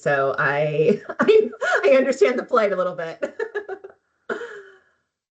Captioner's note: laughing; laughing